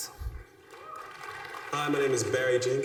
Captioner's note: applause